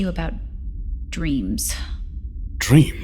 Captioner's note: incredulous